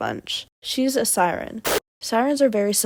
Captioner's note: really sped up explosion sound effect